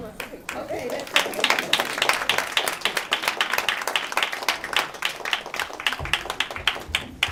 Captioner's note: applause